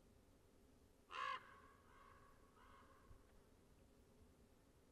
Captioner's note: crows cawing